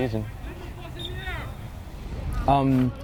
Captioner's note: whistle tweeting